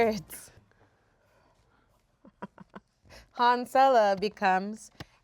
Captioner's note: laughs